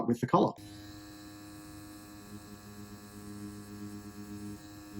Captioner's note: machine buzzes softly